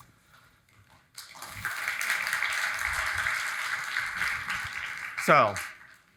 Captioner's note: audience applauding